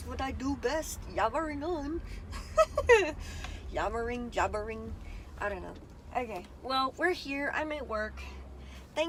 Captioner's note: giggles